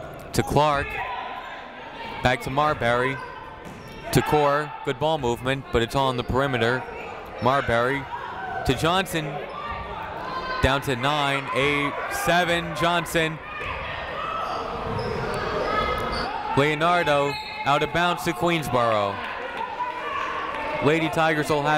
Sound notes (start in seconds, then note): 14.3 people shouting in the crowd; 17.3 whistle tweeting; 19.6 people shouting in the crowd